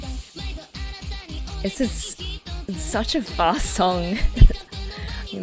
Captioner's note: laughs